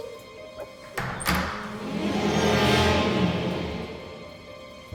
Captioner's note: door handle clicks